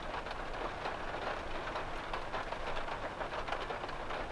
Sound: rain

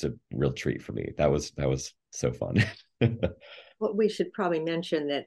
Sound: laughs

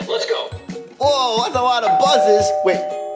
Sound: Buzz Lightyear talking; doorbell

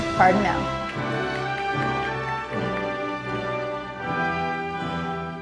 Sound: audience applauding

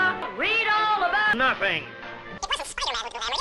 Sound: in Jameson's voice

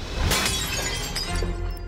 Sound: glass shattering

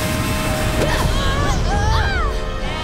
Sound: screaming

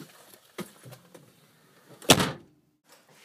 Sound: closing trunk

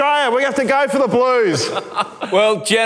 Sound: laughing

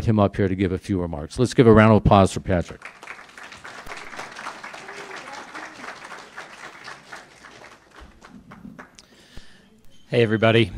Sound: clapping

